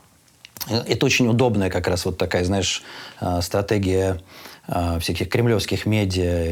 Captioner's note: none